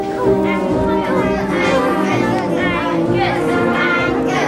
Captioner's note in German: Zuschauer skandieren